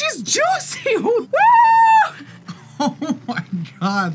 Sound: laughs

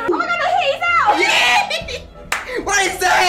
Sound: shrieks in utter shock

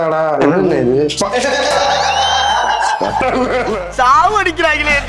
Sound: laughs

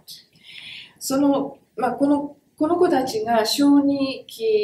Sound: speaks in Japanese

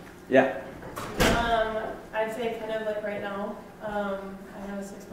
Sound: voiceover

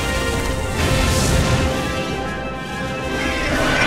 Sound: rockets blast

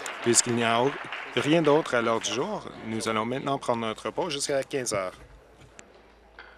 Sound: applause

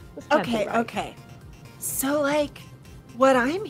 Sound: stammers

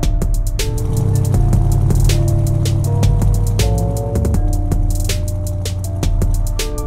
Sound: hip hop music; car engine revving; hip hop music

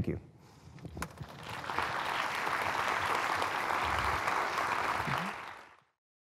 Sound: applause

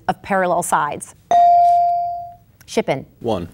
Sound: bell dinging

